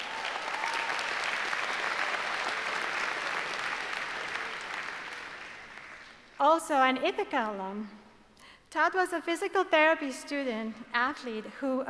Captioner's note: applause